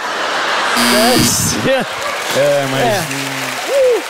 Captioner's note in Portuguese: campainha